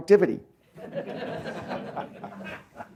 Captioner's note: laughter